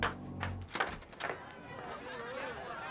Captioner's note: door opens